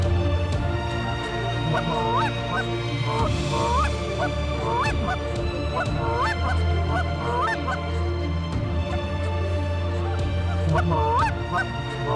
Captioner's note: goose calls